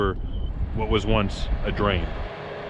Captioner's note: tractor sound